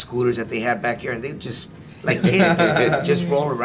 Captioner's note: laugh